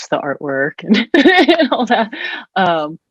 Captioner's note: laughs